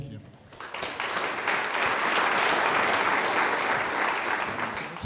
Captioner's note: audience applauds